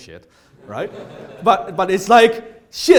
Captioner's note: audience laughs